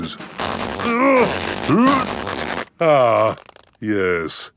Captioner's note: grunting